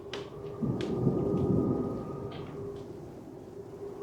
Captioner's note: thunder rolling